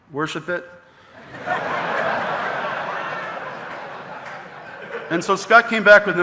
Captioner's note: audience laughing